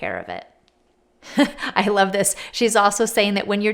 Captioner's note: laughs